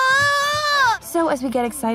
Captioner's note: screams